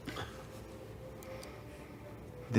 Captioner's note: laughs